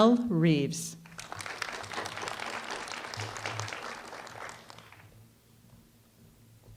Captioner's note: applause